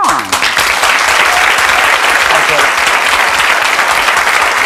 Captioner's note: audience clapping